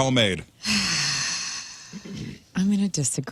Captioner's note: sighing